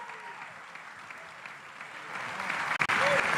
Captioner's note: applause